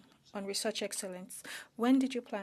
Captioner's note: speaking French